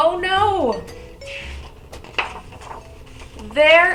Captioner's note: page turning